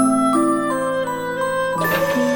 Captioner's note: sigh